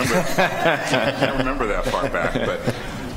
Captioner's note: laughing